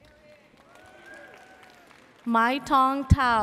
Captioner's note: audience cheers